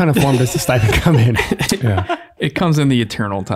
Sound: all laughing

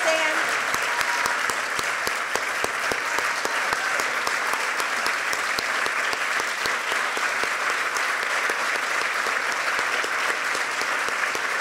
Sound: applause

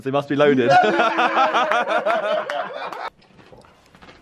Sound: laughing

